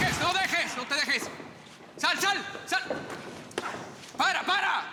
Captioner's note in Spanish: Ruido al caer